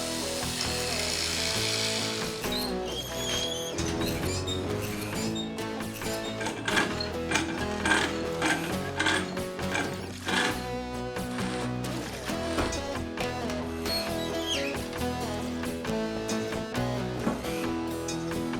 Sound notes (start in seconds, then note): 0.1 saw Buzzing; 6.8 jack Cranking